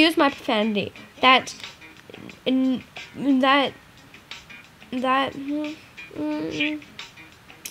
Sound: slight whimper

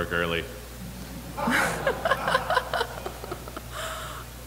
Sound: laughter

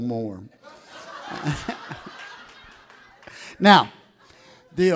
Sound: audience laughs

